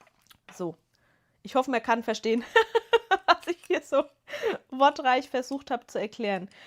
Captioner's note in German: gelächter